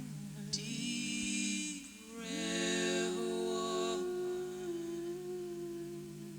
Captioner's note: rhythmic wooing